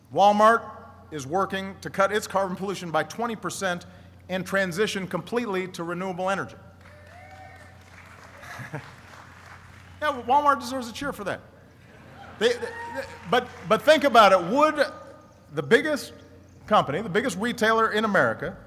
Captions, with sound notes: Walmart is working to cut its carbon pollution by 20 percent and transition completely to renewable energy. (applauding) Walmart deserves a cheer for that. But think about it. Would the biggest company, the biggest retailer in America,